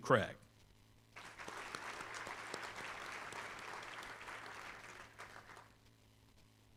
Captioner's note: applause